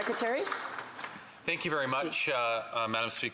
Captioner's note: applause